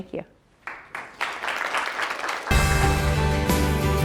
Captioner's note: audience applauds; uplifting music